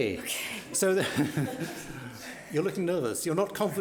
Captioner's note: laughs